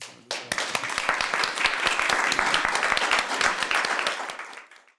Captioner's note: applause